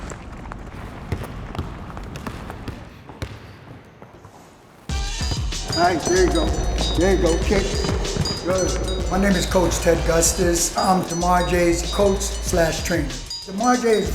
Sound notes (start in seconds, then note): 3.2 ball bouncing